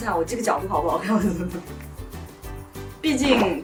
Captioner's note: hahahahahaha